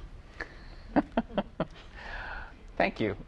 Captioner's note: laughter